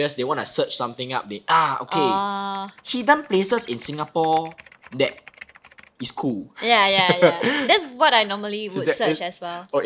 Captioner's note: typing noises